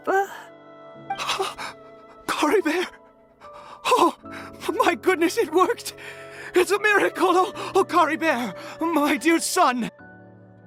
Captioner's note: gasp